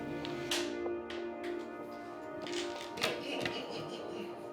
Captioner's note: dominoes sliding; laughing